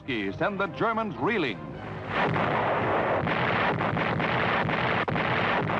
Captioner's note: artillery firing